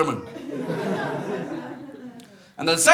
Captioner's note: audience laughs